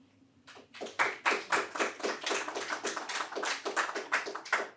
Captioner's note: audience applauding